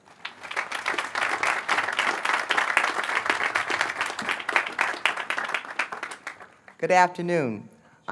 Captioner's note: applause